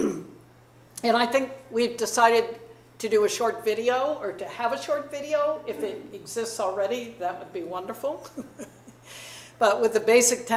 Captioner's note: chuckles